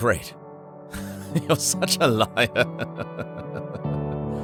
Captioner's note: chuckles; gentle music